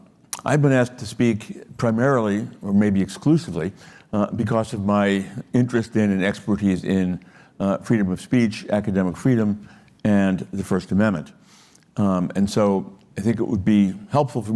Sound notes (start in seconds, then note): none